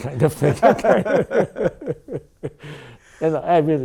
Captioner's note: laughing